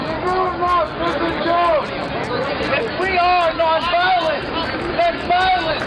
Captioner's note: cheering